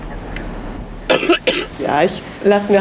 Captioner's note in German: Keuchender Husten